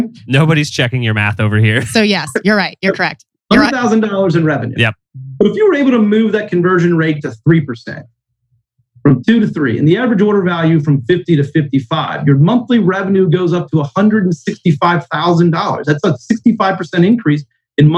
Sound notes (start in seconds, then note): 0.2 laughs